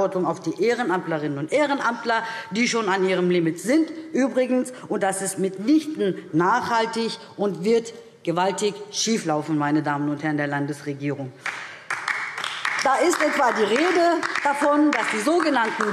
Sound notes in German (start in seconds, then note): 11.4 Beifall DIE LINKE